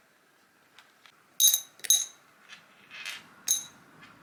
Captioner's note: metal clings